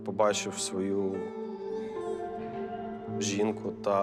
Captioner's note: baby crying